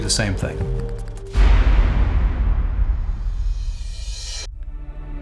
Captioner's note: explosion